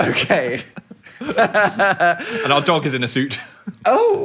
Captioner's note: laughing; chuckling